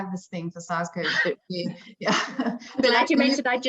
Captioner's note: chuckling